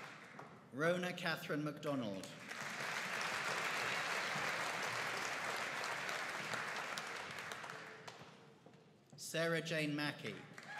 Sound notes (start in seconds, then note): 2.3 audience applauding